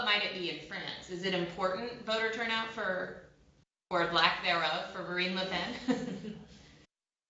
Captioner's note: laughter